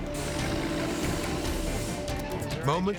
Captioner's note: engine roars